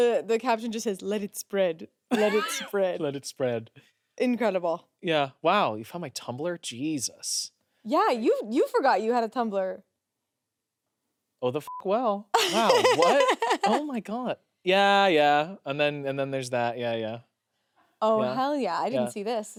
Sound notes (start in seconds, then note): 11.6 beep; 12.3 laughs